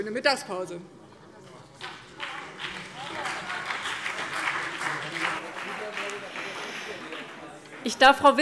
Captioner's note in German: Beifall BÜNDNIS 90/DIE GRÜNEN und CDU